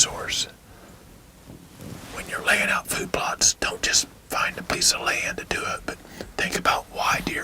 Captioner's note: whispering